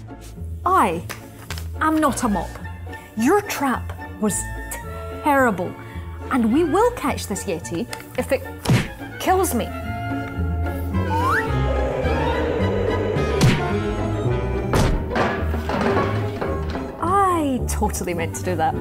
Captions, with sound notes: I am NOT A MOP. Your trap was TERRIBLE. And we will catch this yeti if it kills me! [Thump] [Crash] I totally meant to do that.